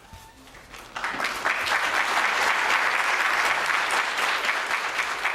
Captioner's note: audience applauding